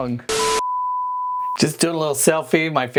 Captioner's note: tone blaring